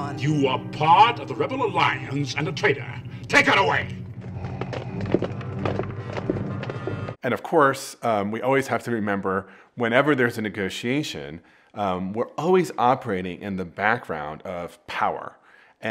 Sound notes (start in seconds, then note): 3.9 footsteps plodding